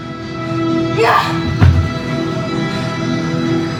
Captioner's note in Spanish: Gritos